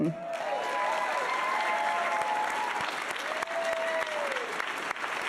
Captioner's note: audience cheering and applauding